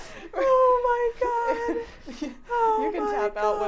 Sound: laughing

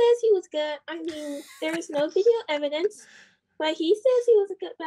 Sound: chuckles

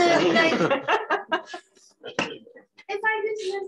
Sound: laughter

